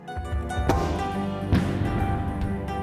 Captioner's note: loud thud